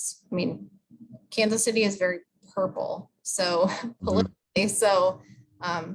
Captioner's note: laughs